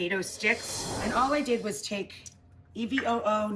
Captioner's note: air whooshes